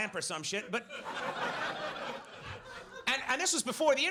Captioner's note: audience laughs